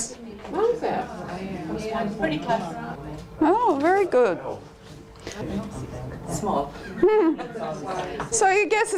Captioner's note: audience chatter